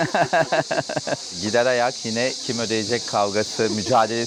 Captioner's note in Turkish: kahkaha